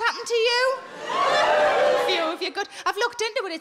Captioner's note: scattered wooping